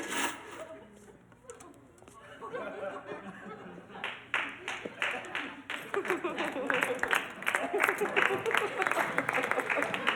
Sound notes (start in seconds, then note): 2.2 people laughing; 4.0 crowd clapping